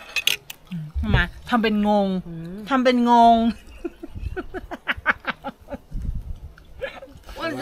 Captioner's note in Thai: เสียงหัวเราะ